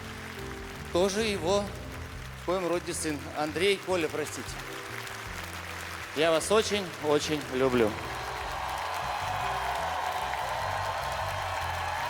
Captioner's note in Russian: ликование